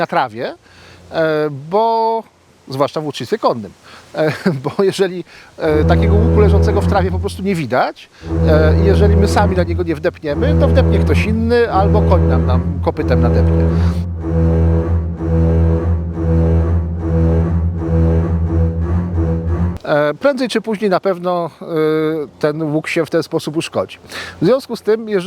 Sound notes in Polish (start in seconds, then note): 5.7 odgłosy zadowolonego rekina